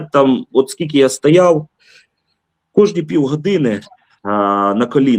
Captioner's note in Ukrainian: сопіння